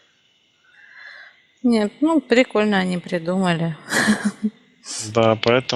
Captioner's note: laughing